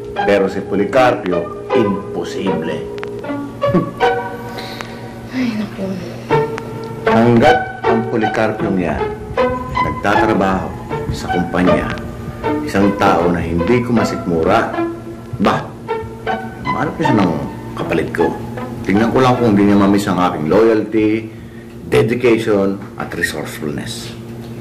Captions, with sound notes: But with Policarpio, impossible. [scoffs] -[inhales] -Oh, dear. As long as that Policarpio is still working at the company, he's a person I can't stand. He should find someone to replace me. Let's see if he won't miss my loyalty, dedication, and resourcefulness.